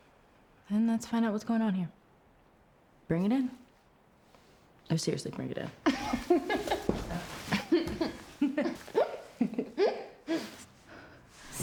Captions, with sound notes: Then let's find out what's going on here. Bring it in. Oh, seriously bring it in. (laughs) (Rachel and Claire laugh)